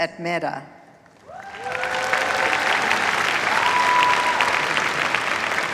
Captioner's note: cheers, applause